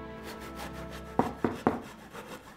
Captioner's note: door knocking sound